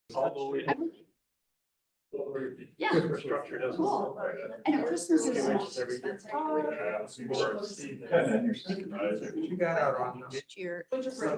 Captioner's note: ambient conversations in background